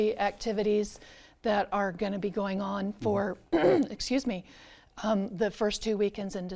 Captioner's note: clears throat